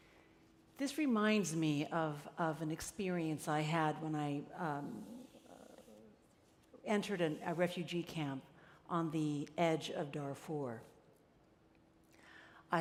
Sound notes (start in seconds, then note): none